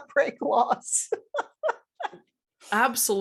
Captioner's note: laughing